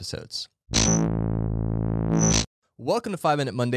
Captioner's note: buzzing tones